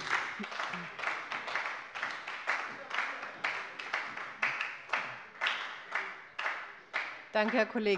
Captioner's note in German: Heiterkeit und Beifall bei der SPD